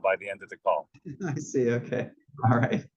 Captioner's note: laugh